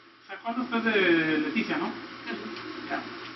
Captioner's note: conversing in Spanish